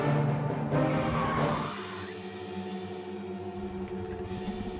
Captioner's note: tires screeching